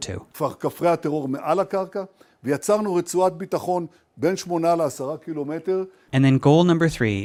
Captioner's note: Netanyahu speaking in foreign language